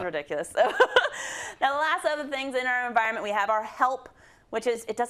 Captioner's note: laugh